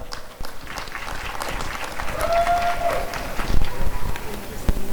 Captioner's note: applause and cheering